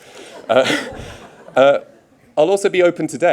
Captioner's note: audience laughing